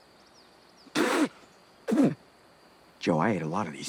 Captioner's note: Hatfield sputters